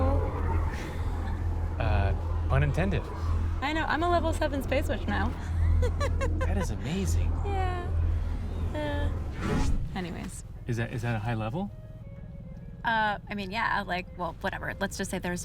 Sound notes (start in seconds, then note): 0.6 chuckles; 5.3 laughs